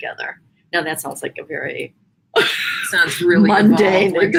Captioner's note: laughs